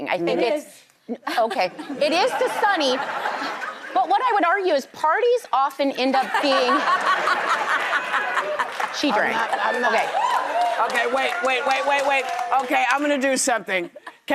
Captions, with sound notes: I think it's-- It is. Okay, it is to Sunny, but what I would argue is parties often end up being-- (audience laughs) She drinks. I'm not, I'm not. Okay. Okay, wait, wait, wait, wait, wait. Okay, I'm gonna do something.